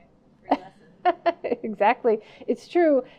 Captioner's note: laughing